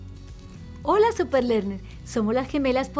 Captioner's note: speaking Spanish